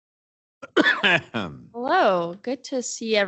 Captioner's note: coughs